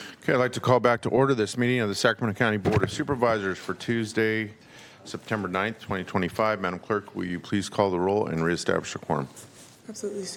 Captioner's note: gavel strike